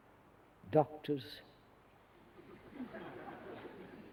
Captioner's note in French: Rires